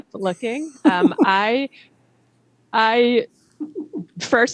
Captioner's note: laughs